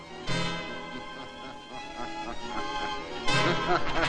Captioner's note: del gardo laughing